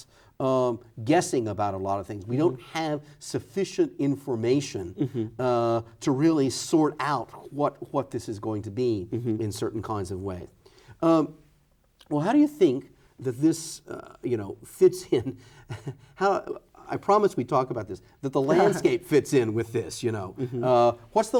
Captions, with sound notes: guessing about a lot of things. We don’t have sufficient information to really sort out what, what this is going to be in certain kinds of way. Well, how do you think that this, you know, fits in [chuckles] how -- I promise we talk about this, that the landscape fits in with this, you know -- what’s the